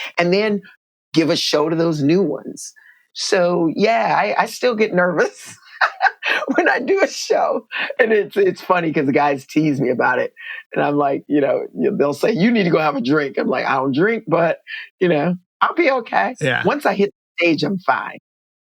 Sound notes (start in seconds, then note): 5.3 laughter